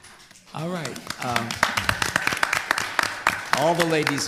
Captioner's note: applause